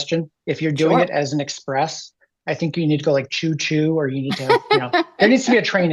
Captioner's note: laughter